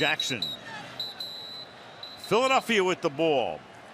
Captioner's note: whistle